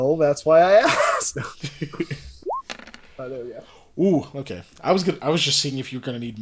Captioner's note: laughs